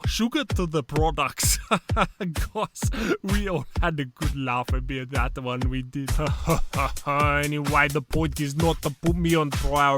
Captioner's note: laughter